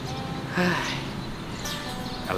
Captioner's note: sigh